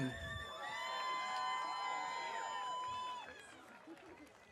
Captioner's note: audience cheering